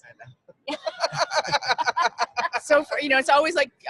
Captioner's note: laughing